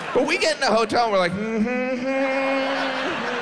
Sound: humming

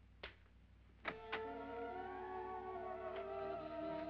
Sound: door opens; eerie music

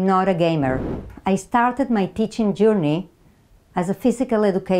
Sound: slide whooshes

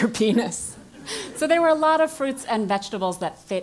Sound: laugh

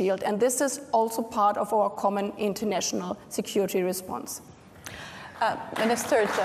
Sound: applause

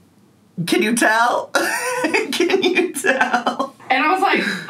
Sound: laughing

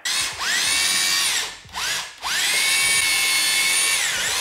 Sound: electric Drill Running

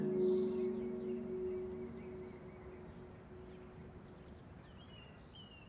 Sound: birds calling, waves rolling

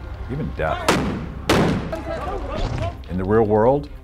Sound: guns firing

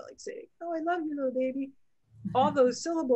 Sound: laughs

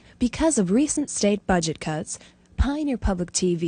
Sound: voiceover

